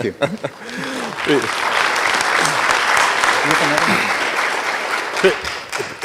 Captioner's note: applause